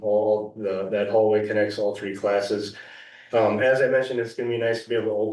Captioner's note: clears throat